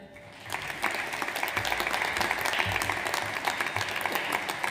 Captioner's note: audience applauds